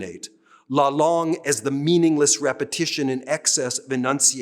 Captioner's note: speaking french